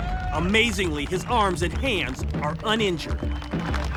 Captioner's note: cheers and applause